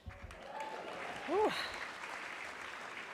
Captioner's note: applause